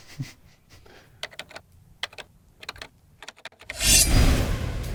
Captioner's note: keyboard clicks; knives shing